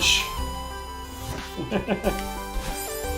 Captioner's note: chuckles